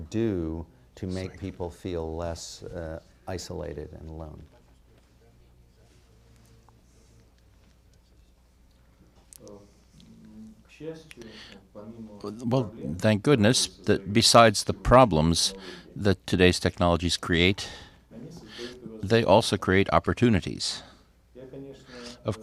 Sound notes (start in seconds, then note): 9.0 through translator